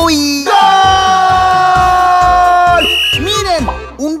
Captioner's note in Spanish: Sonido de silbato